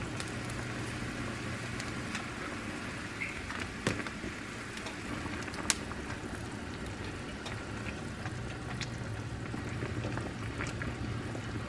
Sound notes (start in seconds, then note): 3.5 boiling